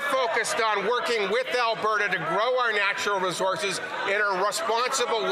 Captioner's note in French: voix de l'interprète